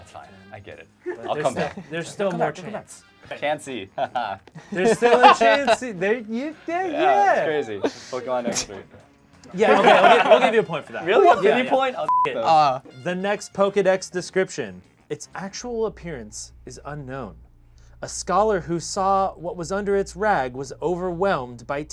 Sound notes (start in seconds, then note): 9.4 group laughs; 12.0 beep